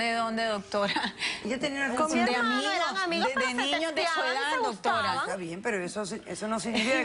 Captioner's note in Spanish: Comentarios al unísono